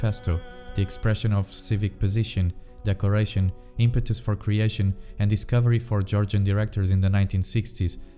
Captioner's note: Georgian